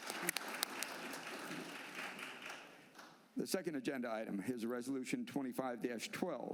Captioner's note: applause